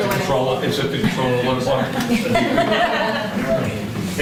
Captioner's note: laughter